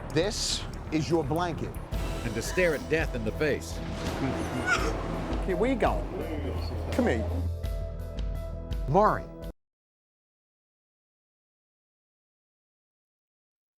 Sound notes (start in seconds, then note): 4.3 sobbing